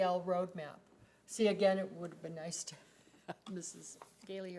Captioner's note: chuckles